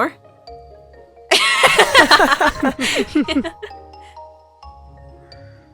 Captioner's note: laughs